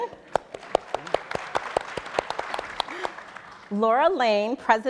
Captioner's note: audience and panelists applauding